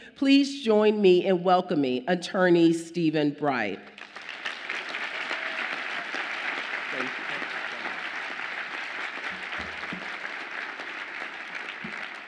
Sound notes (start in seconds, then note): 3.9 audience applauds